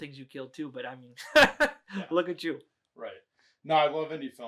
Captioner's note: laughs